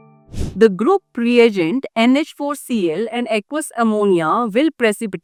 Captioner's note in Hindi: नाक से की जाने वाली आवाज़